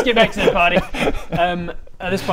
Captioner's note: shifty laugh